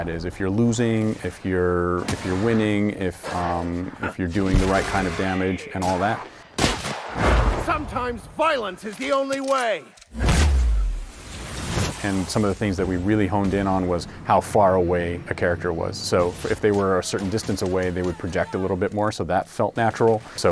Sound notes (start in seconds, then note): 6.5 gunshot; 10.1 slowed down gunshot